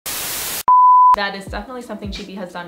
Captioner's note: static buzzing; beeping